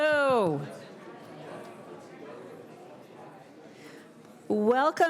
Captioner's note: background chatter